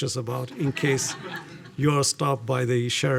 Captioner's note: audience laughing